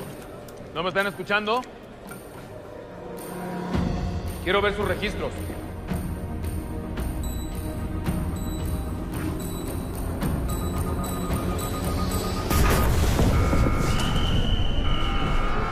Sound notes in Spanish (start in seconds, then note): 7.2 Pitidos; 12.5 Estruendo; 12.7 Alarma